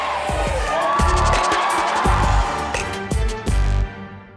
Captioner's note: audience cheering